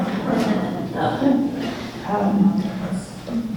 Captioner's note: laughs